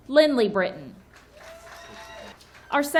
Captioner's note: audience cheering and clapping